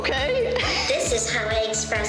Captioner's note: robot talking